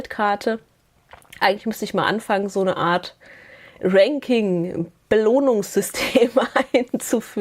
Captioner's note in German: gelächter